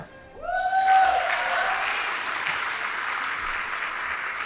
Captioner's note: audience applauding